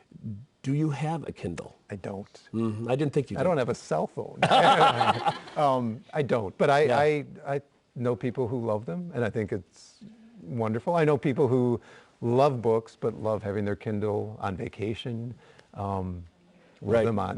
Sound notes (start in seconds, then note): 4.4 laughter